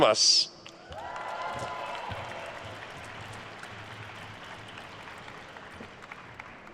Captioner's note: attendees cheering and applauding